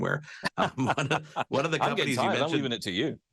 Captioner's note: both laughing